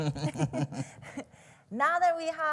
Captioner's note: laugh